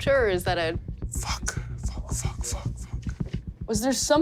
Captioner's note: whispers